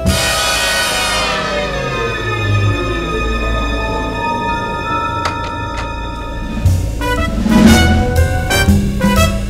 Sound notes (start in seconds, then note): 5.0 Door opens